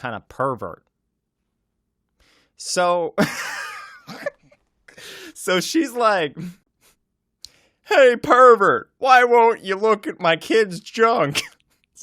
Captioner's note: laughs